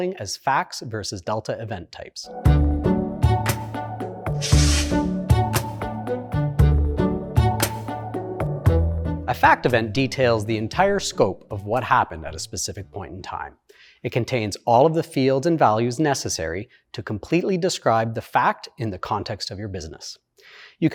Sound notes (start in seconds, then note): 2.5 lighthearted music; 4.4 text whooshing